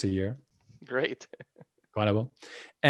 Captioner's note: laughing